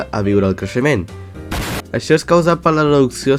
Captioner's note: explode